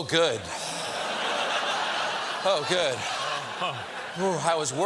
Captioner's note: laughter